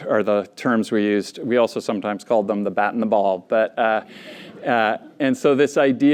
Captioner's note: laughter